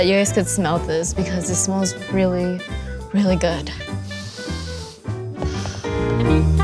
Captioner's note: sniffing; air exhaling